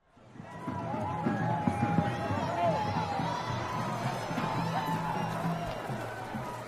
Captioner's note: chattering